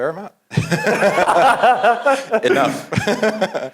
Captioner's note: laugh